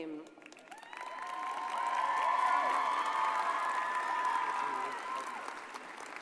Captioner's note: audience cheers and applauds